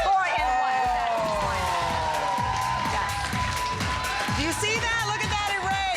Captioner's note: applause